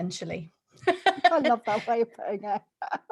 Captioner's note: laughter